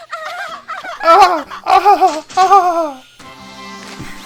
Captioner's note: intentionally obnoxious laughing